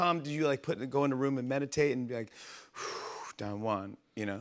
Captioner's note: breathes deeply